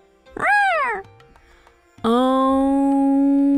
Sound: cat meowing

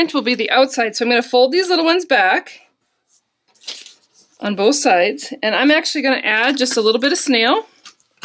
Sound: folding

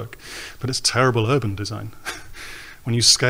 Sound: laughs

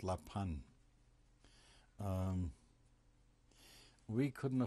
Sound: pauses for 3 seconds

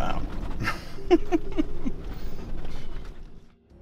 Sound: chuckles

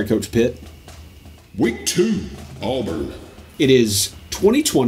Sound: automated Voiceover

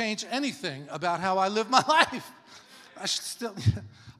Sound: laughs

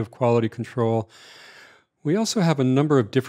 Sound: breathes heavily

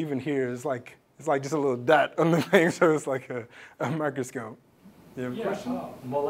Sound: laugh

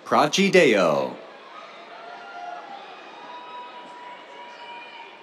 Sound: cheers

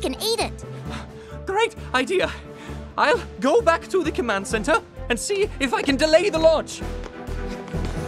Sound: out of breath

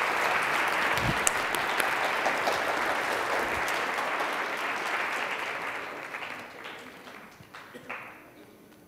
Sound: applause

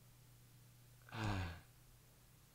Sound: sighs

